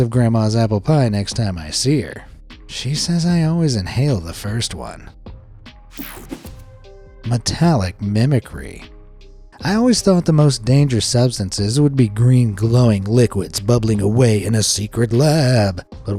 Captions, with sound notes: of Grandma's apple pie next time I see her; she says I always inhale the first one. (mellow music) (graphic whooshes) Metallic mimicry. I always thought the most dangerous substances would be green glowing liquids bubbling away in a secret lab.